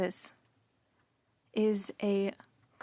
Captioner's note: speaking in French